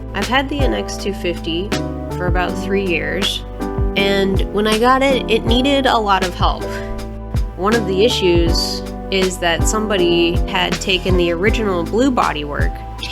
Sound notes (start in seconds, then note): none